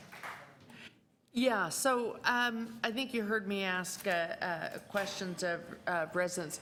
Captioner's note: applause